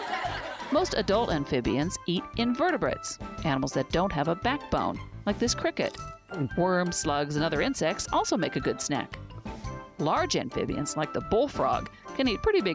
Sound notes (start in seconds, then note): 0.0 laughter